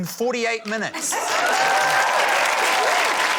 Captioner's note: laughter; cheering, applause